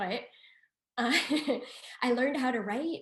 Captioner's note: laughs